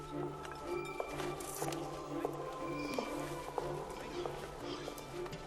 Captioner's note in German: Schritte nähern sich